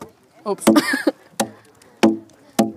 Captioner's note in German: lacht